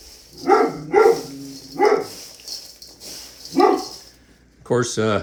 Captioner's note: more barking